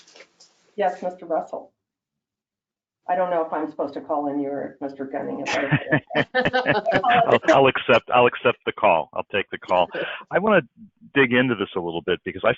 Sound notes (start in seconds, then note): 5.4 laughter